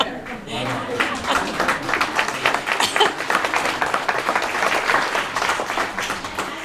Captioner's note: applause